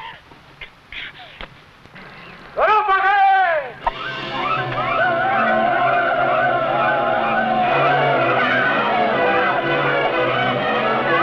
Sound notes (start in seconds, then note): 4.3 men shouting; 8.9 suspenseful music